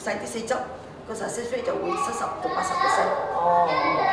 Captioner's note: Cantonese